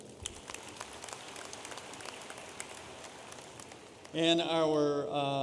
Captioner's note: audience applauding